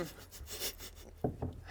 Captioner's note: spontaneous giggles